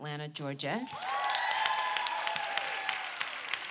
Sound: applause

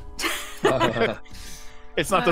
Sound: all laugh

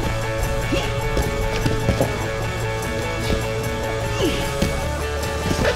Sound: grunting

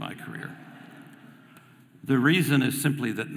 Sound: audience laughing

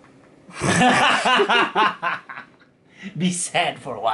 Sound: laughs

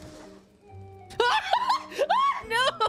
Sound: screaming

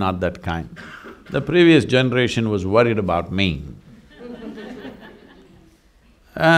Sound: laughter

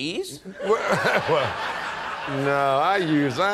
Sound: laughter

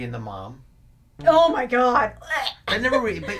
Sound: makes gagging noise; laughs

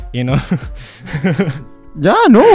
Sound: nervous laughter

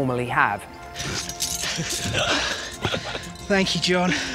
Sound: laughing

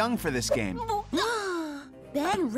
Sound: cat gasps

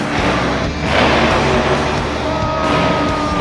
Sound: truck engine revs

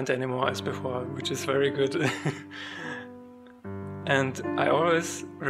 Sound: dies laughing

